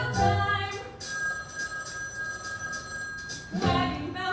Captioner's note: phone rings